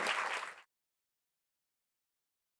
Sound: applause

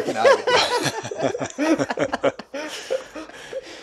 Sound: laughter

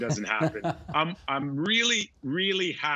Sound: laughing

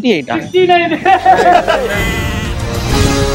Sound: laughs

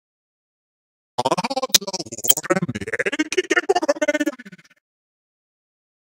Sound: robotic voices

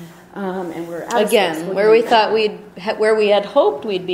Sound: voiceover

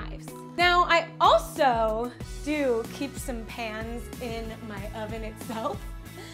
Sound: laughs

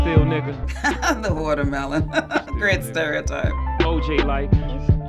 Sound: laughing

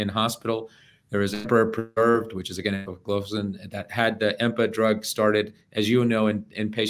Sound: voice breaking

